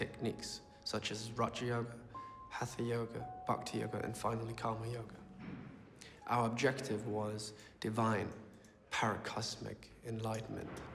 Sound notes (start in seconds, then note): none